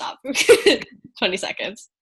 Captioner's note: laughs